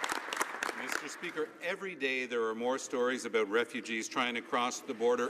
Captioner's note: some Applause